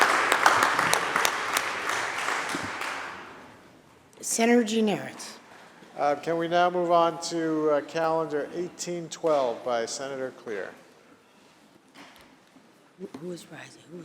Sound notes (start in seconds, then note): 3.1 applause